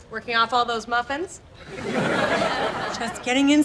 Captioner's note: laughs